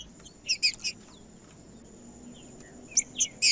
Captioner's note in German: trinca ferro cantando